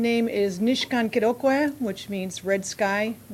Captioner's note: speaking ojibwe